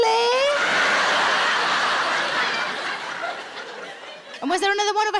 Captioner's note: audience laughing